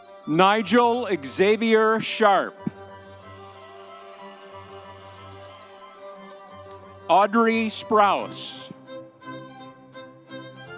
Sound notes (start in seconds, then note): 2.8 audience cheering; 4.7 lively music continues